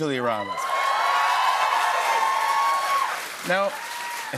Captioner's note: cheers and applause